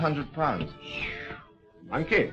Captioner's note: whistling